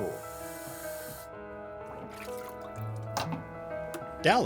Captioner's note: water splashing